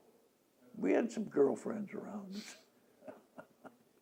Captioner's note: laughs